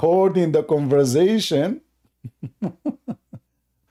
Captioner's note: Ketawa